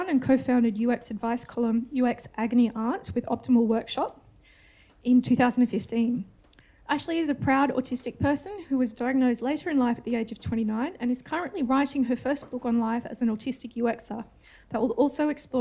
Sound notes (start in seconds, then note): none